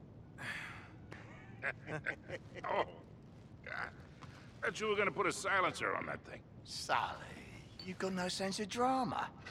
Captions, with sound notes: (laughs) Oh... ...god. Thought you were gonna put a silencer on that thing? Sully... ...you’ve got no sense of drama!